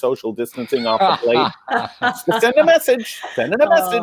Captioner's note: commentators laughing